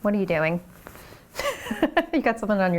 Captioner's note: laughs